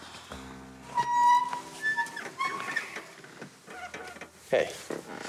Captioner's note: seats creaking